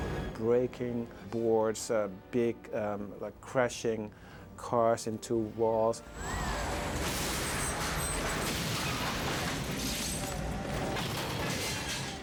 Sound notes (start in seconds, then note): 6.5 crashing